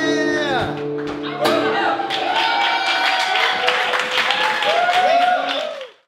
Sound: applause

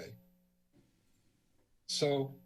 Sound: silence

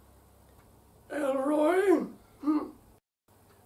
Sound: stilted tone

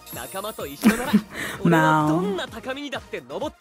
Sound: chuckles

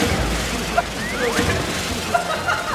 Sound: splash

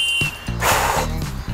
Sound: exhale

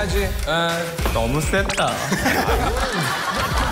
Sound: laugh

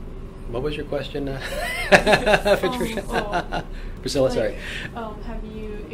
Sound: laughs

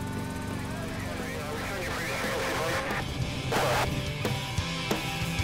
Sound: distorted radio chatter; pop punk music

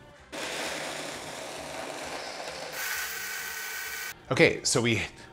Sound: blender whirring

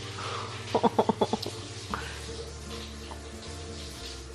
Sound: laughing

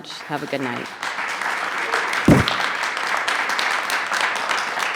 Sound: attendees clapping

